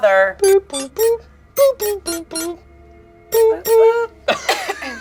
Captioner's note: buttons beeping